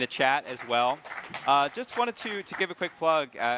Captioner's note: crowd clapping